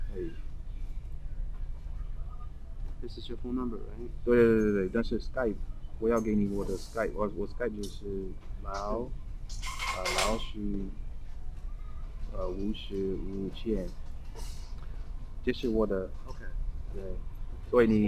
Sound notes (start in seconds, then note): 5.1 mandarin